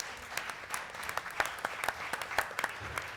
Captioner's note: applause